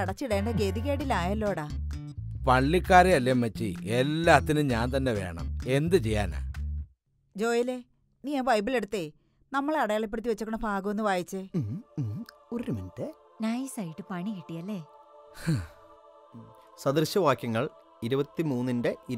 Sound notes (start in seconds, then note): 15.4 sighs